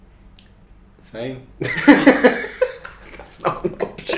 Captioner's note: laughing